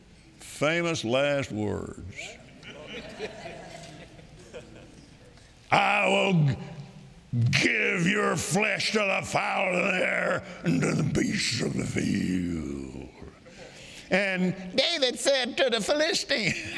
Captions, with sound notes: Famous last words. (congregation laughing) "I will give your flesh to the fowls of the air and to the beasts of the field. And David said to the Philistine,